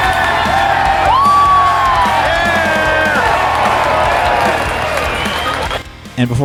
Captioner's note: crowd cheering